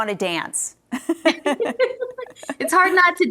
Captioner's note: both laughing